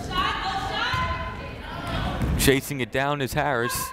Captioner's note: yelling